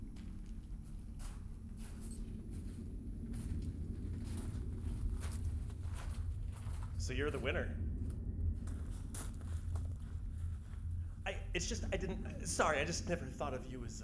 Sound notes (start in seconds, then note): 0.0 walking footsteps